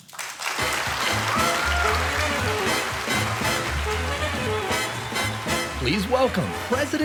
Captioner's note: audience cheering; cheerful music